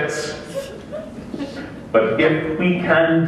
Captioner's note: laughter